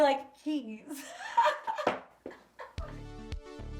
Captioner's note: laughing; upbeat music